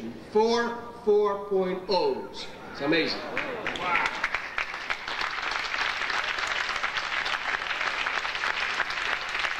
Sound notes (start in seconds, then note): 3.2 audience applauding